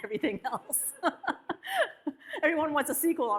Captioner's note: audience laughs; laughs